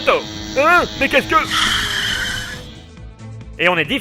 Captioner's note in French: dérapage de moto